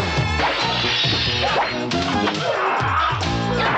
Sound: men fighting

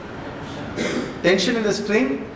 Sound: cough

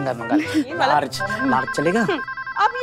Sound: phone ringing

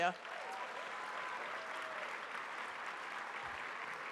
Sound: audience cheers

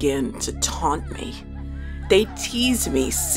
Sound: teasing and laughing

